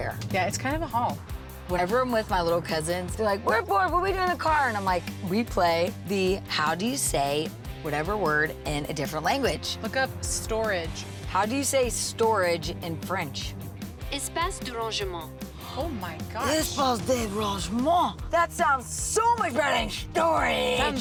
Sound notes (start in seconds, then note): 14.1 virtual assistant speaking French; 16.7 speaking French